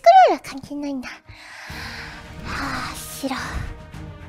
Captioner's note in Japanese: 深呼吸